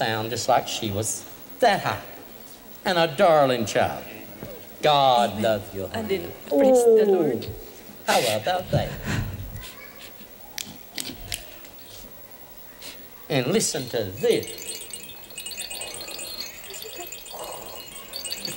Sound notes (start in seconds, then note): 10.5 snapping fingers; 13.3 shaking rattle over each ear